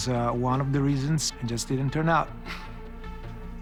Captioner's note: chuckles